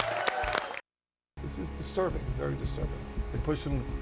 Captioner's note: applause